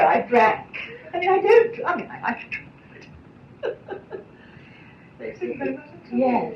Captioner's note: laughs